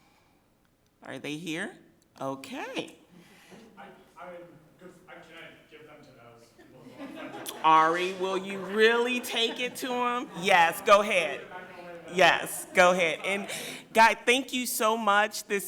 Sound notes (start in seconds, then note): 6.5 people laughing